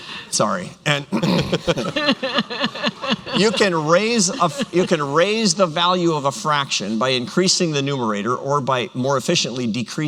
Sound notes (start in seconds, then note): 1.2 laughter